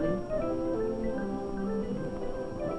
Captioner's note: concerned murmuring